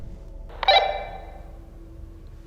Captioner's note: walkie-talkie blips